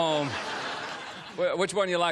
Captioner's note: laughter